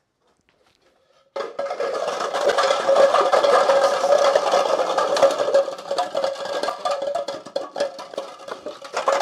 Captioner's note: clattering